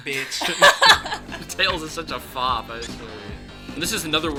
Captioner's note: laughs